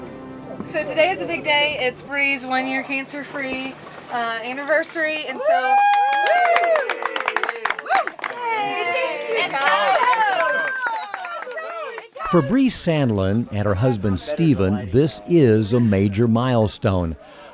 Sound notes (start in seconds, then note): 5.4 applause/cheering